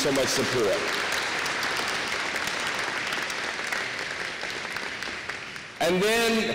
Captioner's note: applause